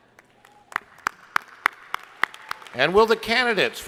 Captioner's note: crowd applauding